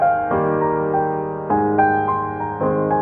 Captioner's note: none